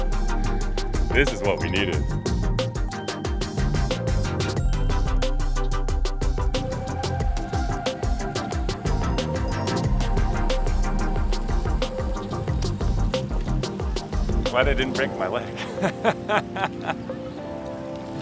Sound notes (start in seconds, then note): 15.5 laugher